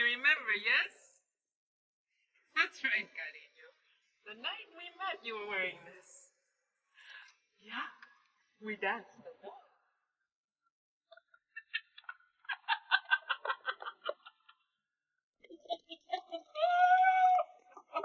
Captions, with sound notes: - You remember, yes? That's right. The night you met, we were wearing this. Yeah. We danced till dawn. (laughing)